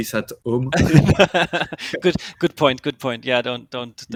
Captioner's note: laughs